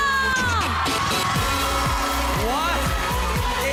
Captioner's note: cheering